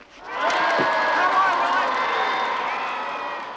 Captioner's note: crowd cheers